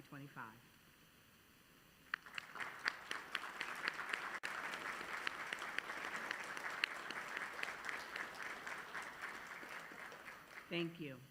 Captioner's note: applause